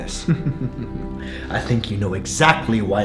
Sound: chuckling

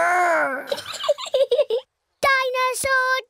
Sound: giggles

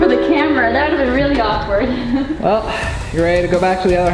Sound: laughs

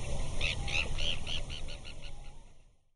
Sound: bird tweeting

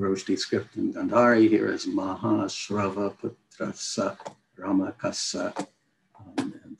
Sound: non-english speech

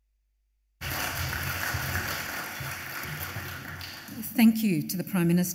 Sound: audience applauds

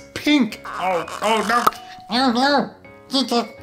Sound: popping

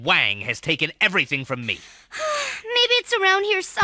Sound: sighs

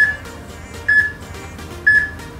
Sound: peep

